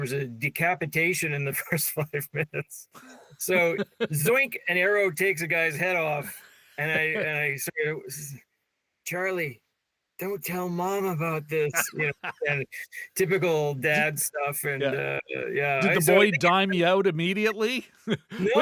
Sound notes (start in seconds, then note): 11.3 laughing